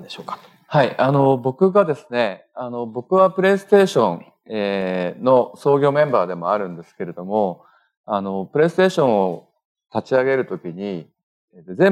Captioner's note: speaking japanese